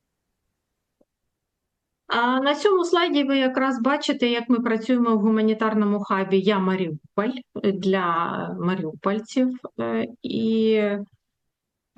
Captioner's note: foreign language